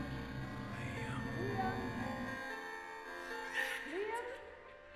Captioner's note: ghostly Voice